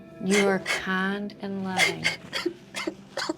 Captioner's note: sobbing